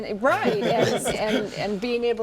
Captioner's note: laughs